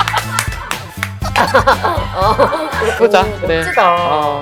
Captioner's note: laughing so hard you can't breathe